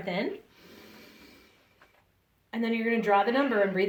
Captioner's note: breathes in